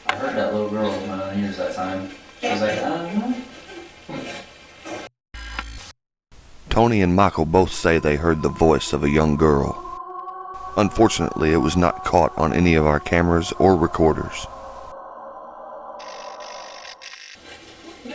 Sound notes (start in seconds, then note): 5.4 static fizzing; 15.3 eerie music; 15.3 static fizzing